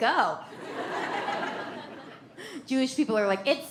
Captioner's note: audience laughs